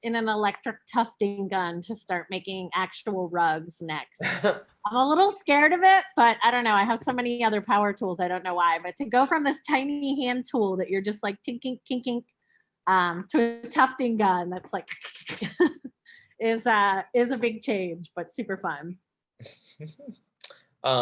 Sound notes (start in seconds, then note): 4.2 chuckles; 15.4 imitates scratching noise; 16.9 chuckles